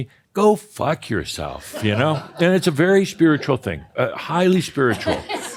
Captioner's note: some laughter; more chuckles